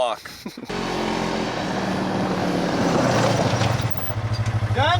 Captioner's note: engine roaring